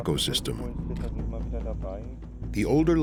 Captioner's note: man speaking German